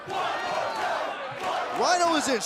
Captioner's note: fans chanting